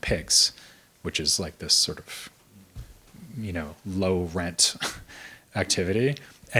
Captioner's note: chuckles